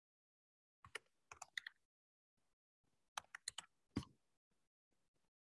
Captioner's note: typing noises continue